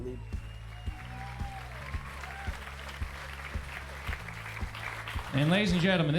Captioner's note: applause fades in